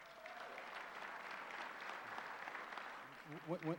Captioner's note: applause